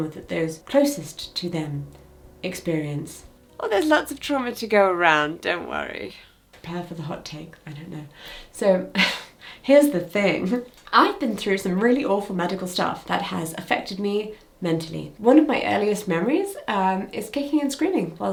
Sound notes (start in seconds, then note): 8.9 chuckles